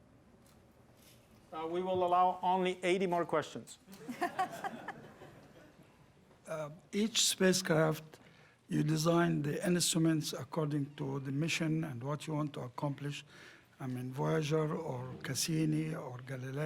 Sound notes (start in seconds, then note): 3.9 laughing